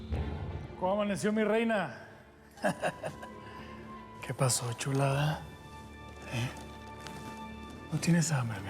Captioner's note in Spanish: risas